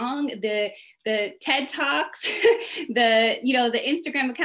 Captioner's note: laughs